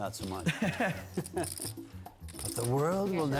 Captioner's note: announcers laugh